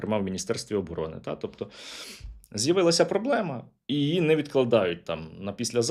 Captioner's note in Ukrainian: сопіння